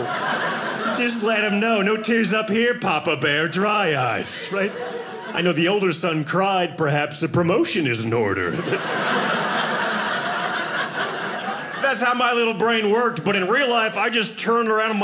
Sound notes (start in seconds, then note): 8.1 audience laughing